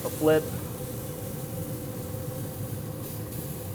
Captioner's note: sizzling